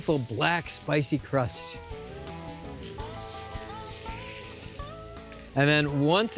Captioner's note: sizzling